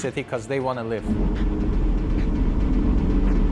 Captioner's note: car engine rumbling